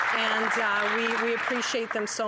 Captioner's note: applause